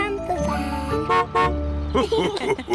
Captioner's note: horn honks; laughter